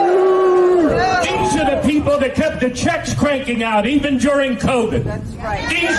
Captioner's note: booing